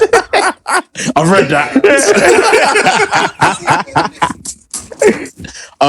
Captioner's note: laughter